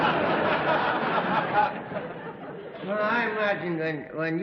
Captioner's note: laughter